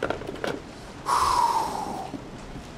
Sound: exhales

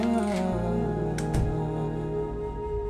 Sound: door closed

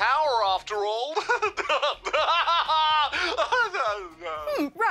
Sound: laughs maniacally

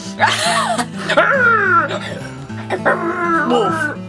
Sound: laughs; growls

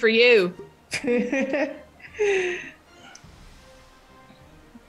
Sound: laugh

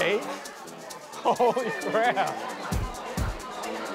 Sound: laughing

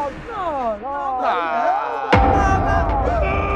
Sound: booing

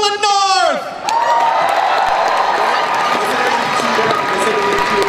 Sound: crowd cheers and applauds

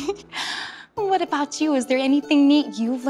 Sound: giggles

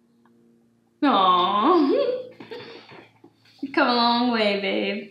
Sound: giggles

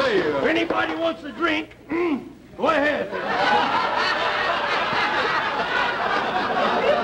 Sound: audience laughter

